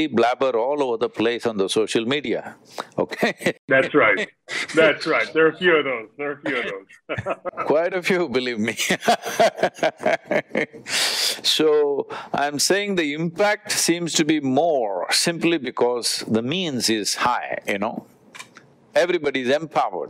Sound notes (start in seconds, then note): 3.7 laughs; 10.5 laughs